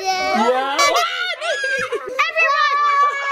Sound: squeals

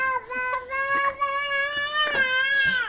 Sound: toddler yells loudly

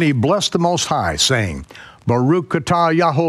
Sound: speaking in foreign language

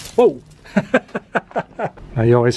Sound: laughter

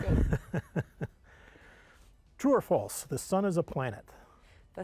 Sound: laughs; laughs

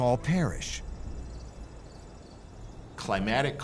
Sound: crickets chirping

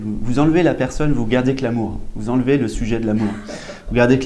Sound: audience chuckles

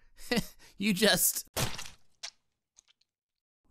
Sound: splat

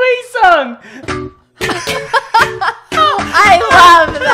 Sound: video game melody; both laugh

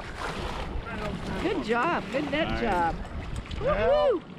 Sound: fish splashing

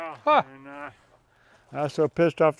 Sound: surprised laugh

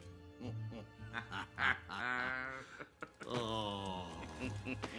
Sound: both laughing

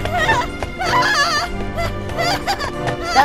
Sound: screams in terror

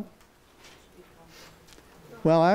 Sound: speaks faintly

